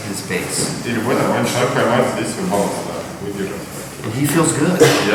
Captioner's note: speaking in a foreign language